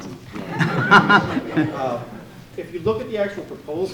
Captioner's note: laughing